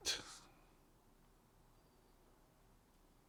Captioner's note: pauses 8 seconds